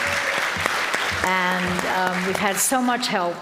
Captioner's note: audience applauding